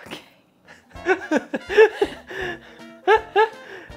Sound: laughing

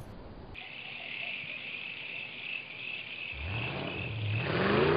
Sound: crickets chirping; engine revving

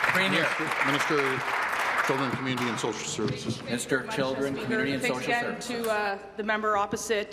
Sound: applause

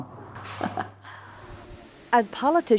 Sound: laughter

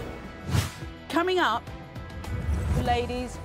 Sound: voiceover

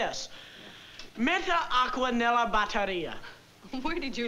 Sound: speaking italian

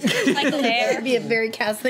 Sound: group laughs; overlapping chatter

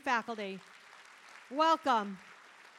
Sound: audience applauding

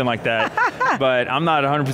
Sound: laughs

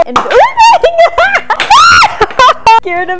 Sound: screaming

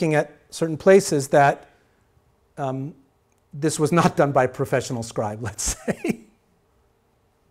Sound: chuckling

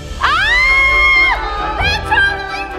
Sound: screaming

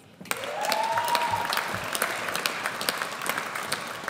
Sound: audience applauds

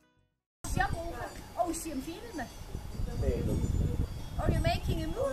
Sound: swiss German conversation

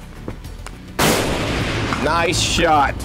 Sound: gunshot

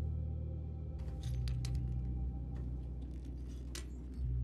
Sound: glass crunches

